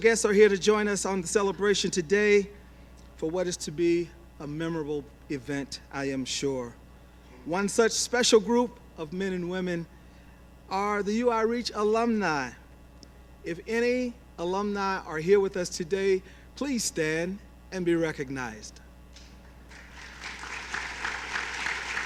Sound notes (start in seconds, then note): 19.6 applause